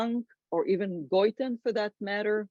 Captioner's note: speaks foreign language